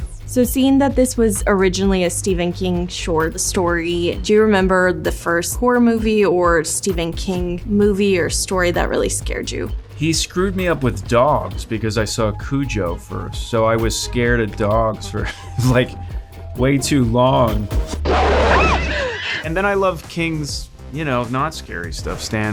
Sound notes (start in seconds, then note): 18.0 growling